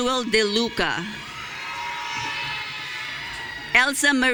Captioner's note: audience cheering